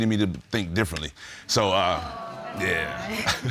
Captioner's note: audience exclaims